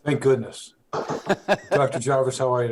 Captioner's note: laughs